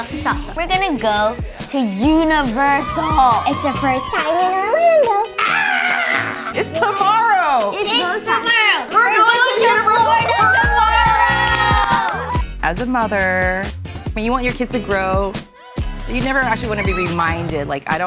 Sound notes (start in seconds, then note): 2.4 family cheering; 5.2 mom screams